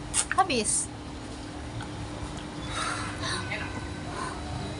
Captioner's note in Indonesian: huuffttt